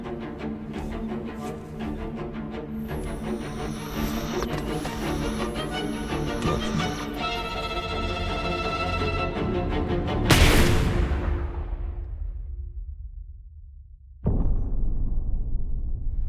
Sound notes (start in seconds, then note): 5.3 jagged instrumental music; 5.3 static hisses; 10.3 gun bangs